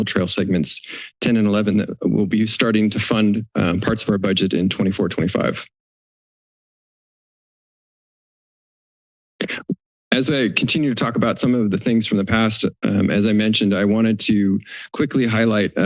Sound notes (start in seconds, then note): 5.8 silence